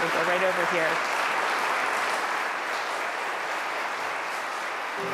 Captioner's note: audience applauding